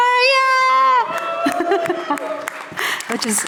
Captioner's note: audience cheering